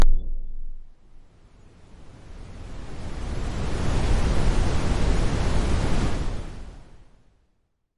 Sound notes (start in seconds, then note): 1.4 sound of a wavy white noise